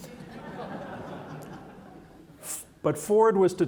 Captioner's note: audience laughing